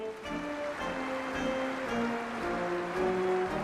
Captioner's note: applause